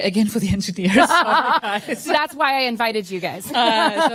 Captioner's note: laughs